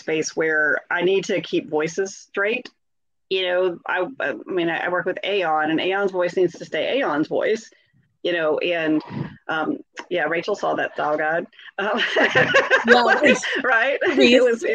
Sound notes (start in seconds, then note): 12.0 laughs